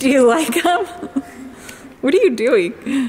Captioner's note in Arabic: تضحك